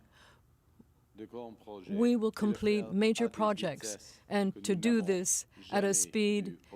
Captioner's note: speaking french